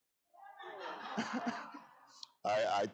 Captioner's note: audience laughing